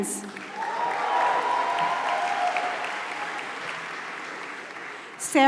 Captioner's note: applause